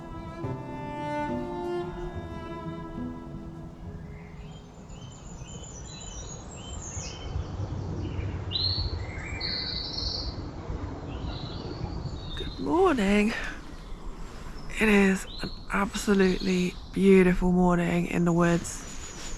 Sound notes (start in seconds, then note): 4.8 morning birdsong